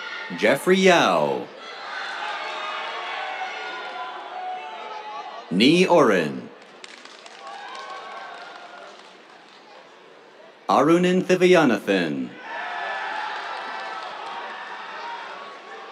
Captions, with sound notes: Jeffrey Yao. [CHEERS, APPLAUSE] Ni Orrin. [APPLAUSE] Arunan Thiviyanathan. [CHEERS, APPLAUSE]